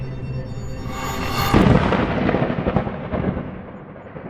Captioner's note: thunder cracks